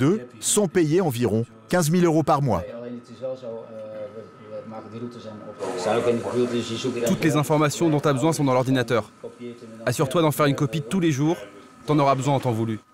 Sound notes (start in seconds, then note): 3.2 foreign language spoken audio